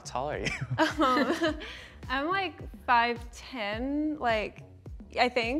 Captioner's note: laughs